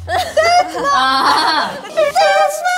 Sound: mute laughing

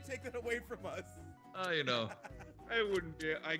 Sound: laugh

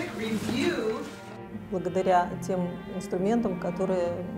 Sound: speaking russian

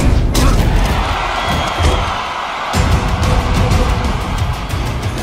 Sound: crowd cheers

